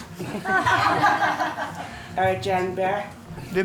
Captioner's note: all laughing